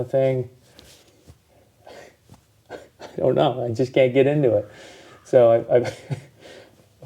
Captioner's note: chuckling